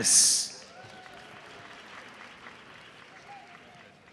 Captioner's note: audience applauds